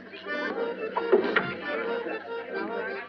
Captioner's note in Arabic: تستمر المحادثات والموسيقى; يُفتح الباب